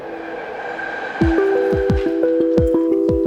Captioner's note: knives clank; train engine roaring; upbeat music